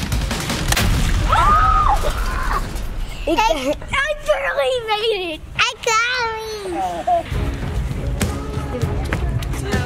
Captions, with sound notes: (screams) - I barely made it - It got me! (upbeat music)